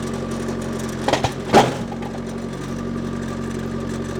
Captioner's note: log clunking